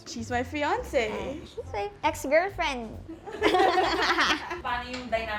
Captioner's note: laughs